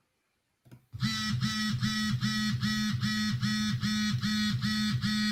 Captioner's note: phone vibrating